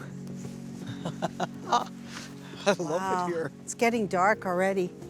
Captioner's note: laughter